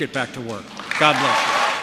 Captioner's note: applause